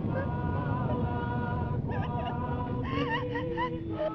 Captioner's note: Pat whimpering